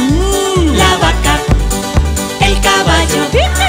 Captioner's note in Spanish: Sonido de galope